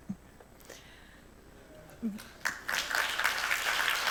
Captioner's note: applause